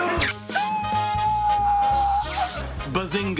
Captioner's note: electricity buzzes; Beaker screams